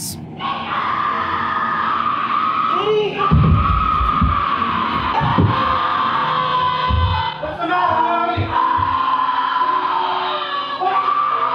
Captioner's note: screaming